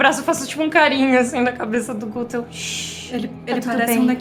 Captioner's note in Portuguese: shhh